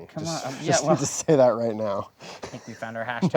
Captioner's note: laughing